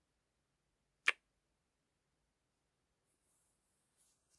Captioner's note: kiss